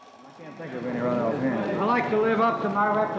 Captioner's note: crowd faintly talking